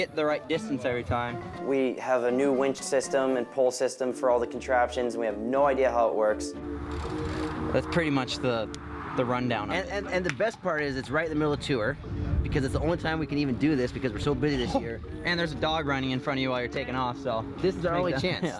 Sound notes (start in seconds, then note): 14.6 laughs